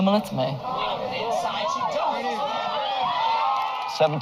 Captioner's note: shouting